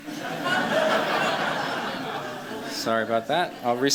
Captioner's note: laughter